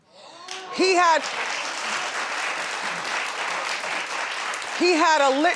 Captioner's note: audience applauding